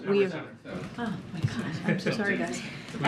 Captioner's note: laughter